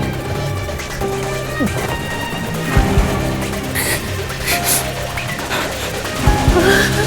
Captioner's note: gag